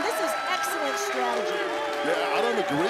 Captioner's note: crowd cheering